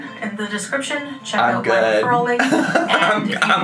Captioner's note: laughs